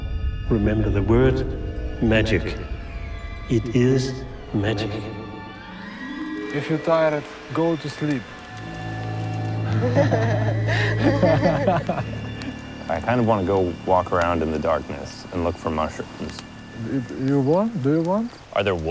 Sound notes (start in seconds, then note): 9.6 laughter